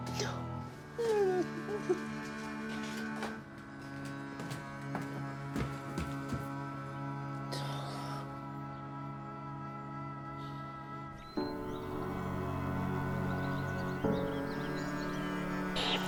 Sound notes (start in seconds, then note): 0.9 crying; 7.4 sighs